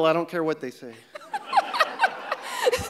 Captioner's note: everyone laughing